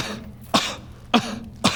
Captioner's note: kuh